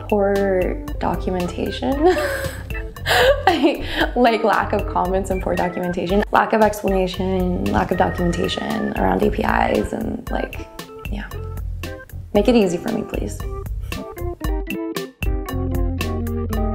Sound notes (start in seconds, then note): 2.0 laughter